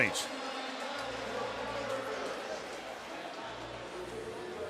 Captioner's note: pa announcement